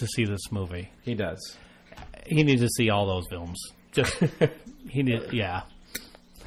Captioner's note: laughs